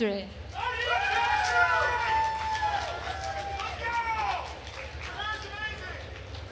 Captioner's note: attendees cheering and applauding